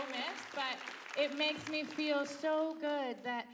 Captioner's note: applause